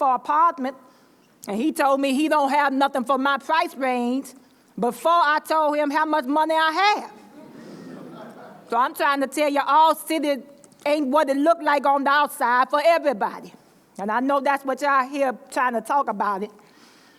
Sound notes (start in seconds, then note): 7.3 laughter